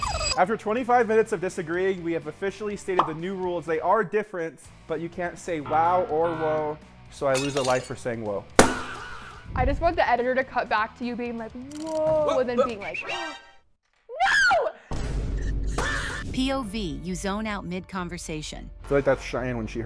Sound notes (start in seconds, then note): 8.5 balloon pops; 13.8 gasps; 15.7 balloon pops